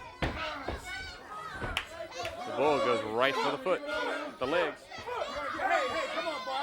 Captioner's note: crowd chatter